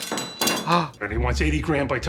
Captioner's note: Trixie gasps